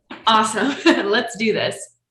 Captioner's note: laughing